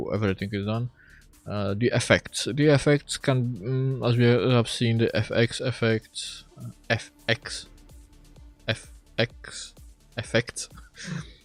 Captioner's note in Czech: selhání ve výslovnosti